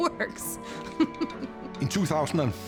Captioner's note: laughing